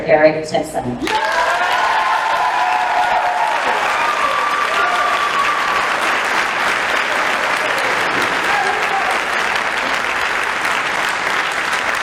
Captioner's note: applause